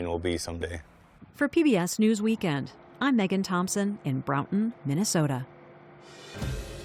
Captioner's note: voice-over